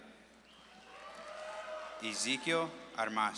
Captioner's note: audience claps and cheers